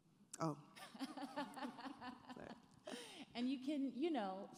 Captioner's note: laughing